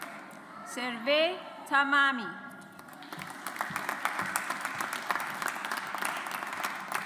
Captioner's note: audience applauds